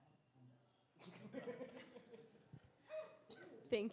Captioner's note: laughter